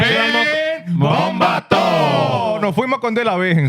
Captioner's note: speaking Spanish